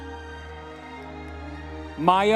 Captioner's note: audience members cheering